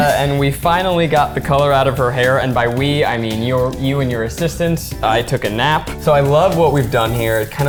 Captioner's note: none